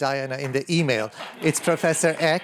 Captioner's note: laughter